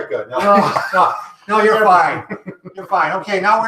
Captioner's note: laughing